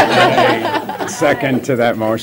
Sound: laughter

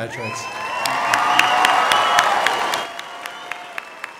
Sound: applause

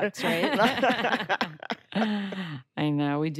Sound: laughter

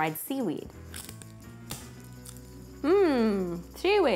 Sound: seaweed crunches in teeth

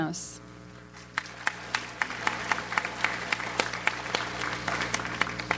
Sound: audience applauds

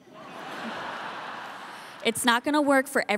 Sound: audience laughing

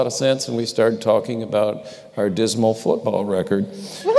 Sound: laughter

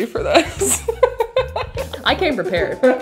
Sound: laughs

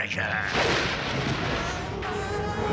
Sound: thundering

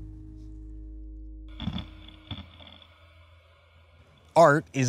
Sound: grinding

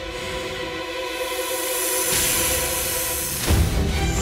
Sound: hissing intensifies

